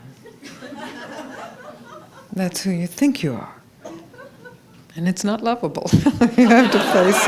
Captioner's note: laughter